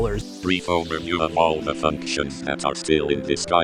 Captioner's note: robotic Voice